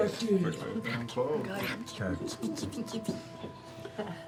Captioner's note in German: flüstert